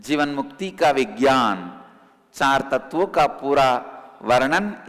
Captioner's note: hindi